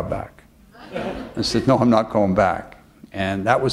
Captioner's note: chuckle